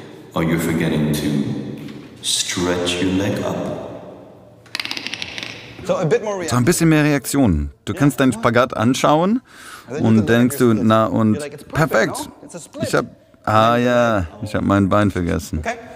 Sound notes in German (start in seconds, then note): 4.5 Knarzen